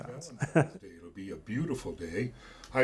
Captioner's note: laughs